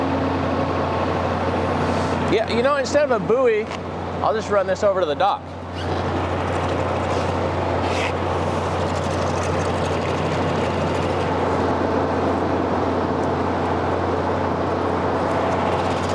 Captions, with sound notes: You know, instead of a buoy, I'll just run this over to the dock. (wind howls) (boat motor whirs)